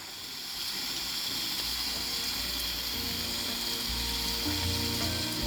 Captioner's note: water sounds